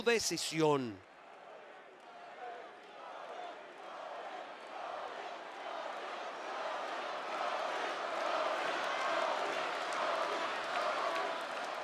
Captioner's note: applause